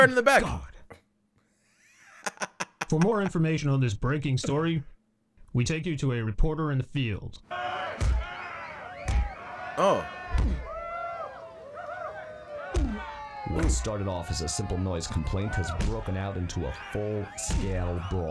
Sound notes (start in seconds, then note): 1.7 laugh; 6.8 applause